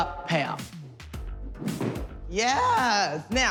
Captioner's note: thuds